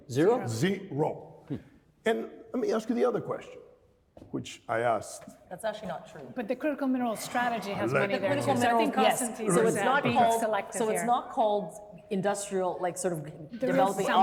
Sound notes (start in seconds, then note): 7.8 groaning